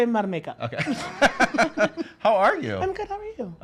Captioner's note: laughs